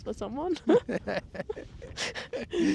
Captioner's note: laughing